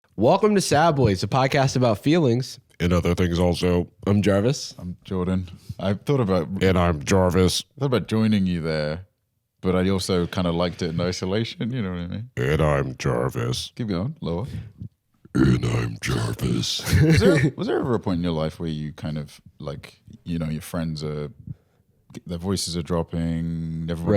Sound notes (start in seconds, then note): 6.0 deep voice; 12.7 deep voice; 15.5 even deeper voice